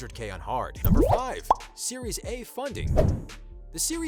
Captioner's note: bubble pop